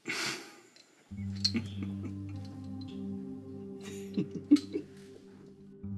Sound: laughter

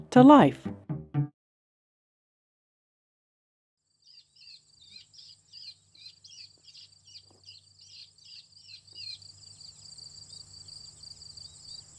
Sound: birds Chirping

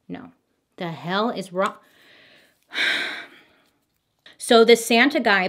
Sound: sighs

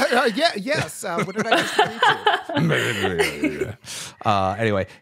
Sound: laughter

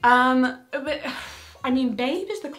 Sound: sighs

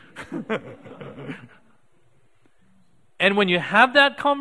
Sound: audience laughing

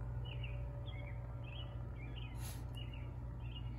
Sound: birds chirping continues; Francesca sniffing

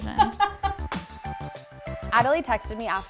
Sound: laughs

